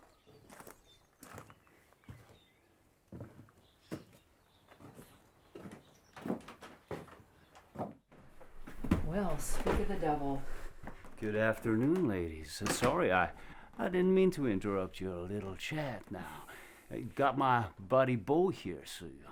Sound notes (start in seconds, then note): 6.1 door rattling